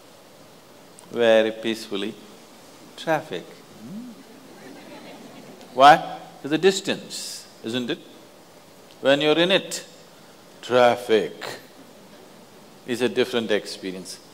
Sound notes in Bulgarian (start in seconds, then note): 4.3 смях